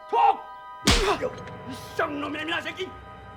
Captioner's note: Shouting In Korean